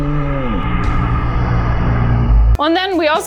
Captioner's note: voice warping